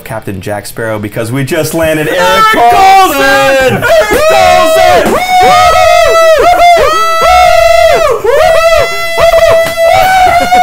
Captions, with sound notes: Captain Jack Sparrow because we just landed Erik Karlsson! - Erik Karlsson! - Erik Karlsson! (screaming)